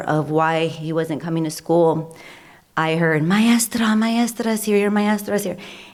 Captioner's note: foreign language spoken